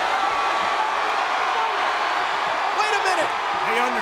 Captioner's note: crowd cheering